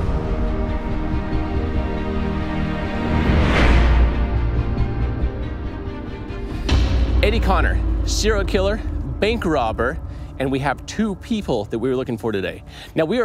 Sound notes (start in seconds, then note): 0.1 somber music; 3.2 air whooshing